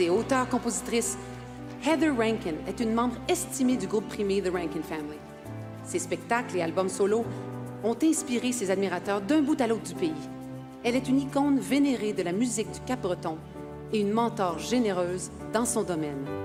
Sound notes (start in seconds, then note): 5.6 speaking French